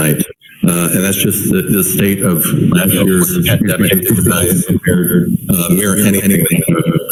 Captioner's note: distorted sound